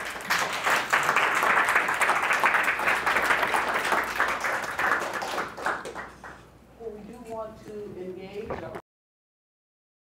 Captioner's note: applause